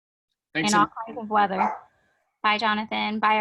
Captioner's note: speaking faintly